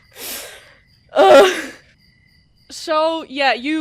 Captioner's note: grunts